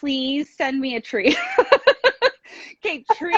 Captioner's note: laughing